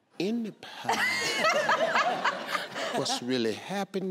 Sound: laughing

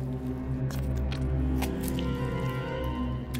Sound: gooey squish

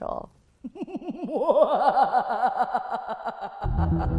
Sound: ghostly laughs; upbeat music

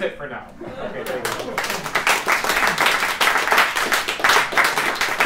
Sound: applause

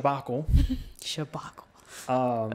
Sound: laughs

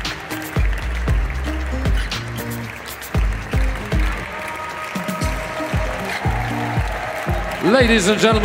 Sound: applause; ♫ Midtempo guitar music ♫; applause

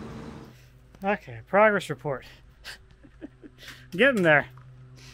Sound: laughs

